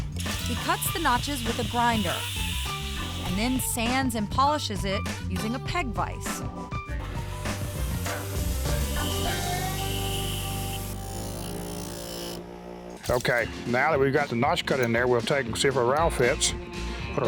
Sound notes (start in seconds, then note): 7.0 grinding sound